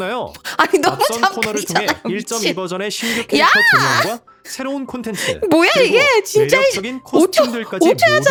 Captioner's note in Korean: 웃음